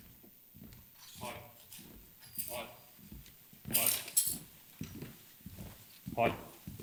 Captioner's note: flagpoles clink